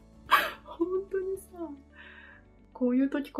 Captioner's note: laugh